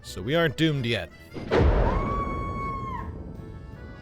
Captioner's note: thunder crashes; person screams